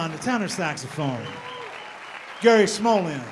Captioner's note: audience applauding